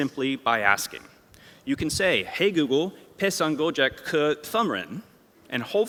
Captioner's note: non-english